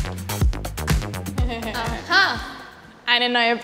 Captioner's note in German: Beide lachen